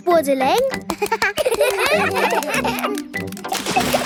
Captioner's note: children laugh